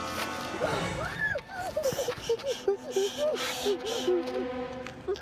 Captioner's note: Eleanor shrieks; Eleanor whimpering